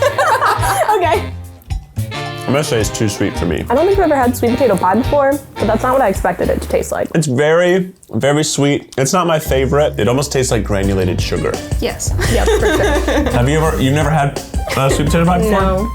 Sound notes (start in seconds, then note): 0.0 students laugh; 12.1 laughs